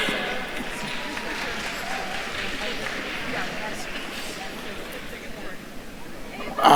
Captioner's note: attendees applauding; attendees chattering